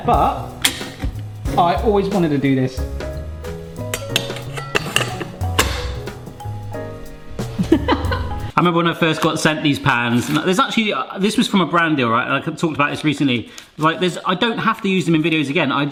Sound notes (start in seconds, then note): 2.8 relaxing music; 3.8 pan handle clinging; 7.6 laughing